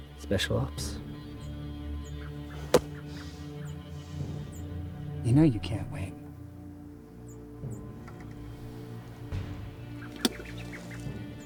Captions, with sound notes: Special ops? You know you can't win. [Spits]